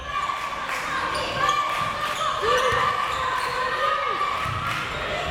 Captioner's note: crowd members chanting